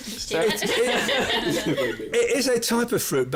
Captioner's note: laughs